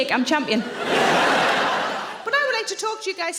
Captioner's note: audience laughing